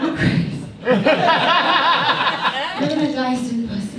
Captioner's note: audience laughs